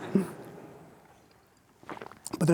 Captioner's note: audience laughing